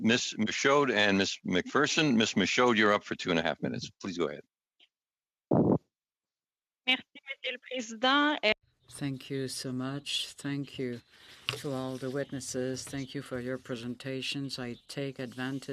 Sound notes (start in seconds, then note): 12.8 speaking French